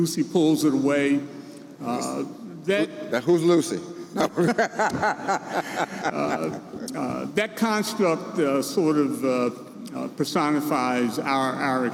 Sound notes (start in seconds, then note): 4.2 both laughing